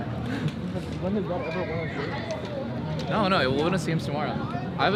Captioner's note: all chattering